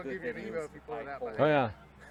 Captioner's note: men chattering indistinctly